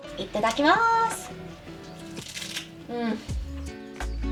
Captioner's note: crunching